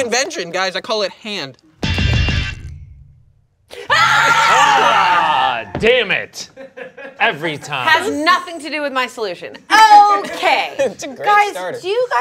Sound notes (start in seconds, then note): 2.5 lighthearted keyboard music; 3.8 screams and runs toward cast